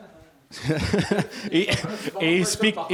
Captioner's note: laughter